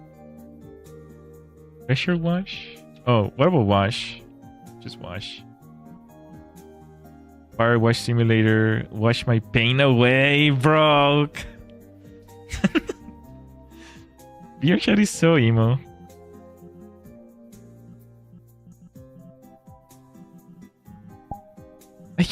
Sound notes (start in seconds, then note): 12.4 laughter